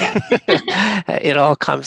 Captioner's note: laughter